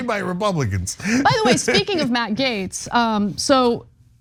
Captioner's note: laugh